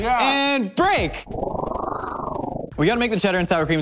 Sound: whooshing

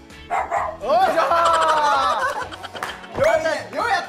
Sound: hahaha

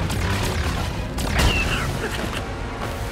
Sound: screeches

